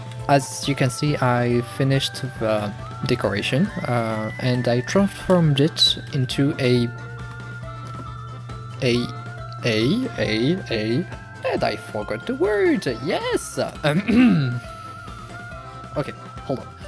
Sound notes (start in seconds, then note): 14.0 intense french mumbling